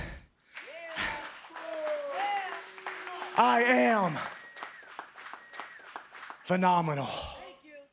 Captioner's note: applause